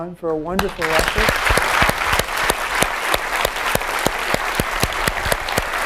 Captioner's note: applause